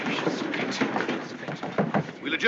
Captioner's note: gavel banging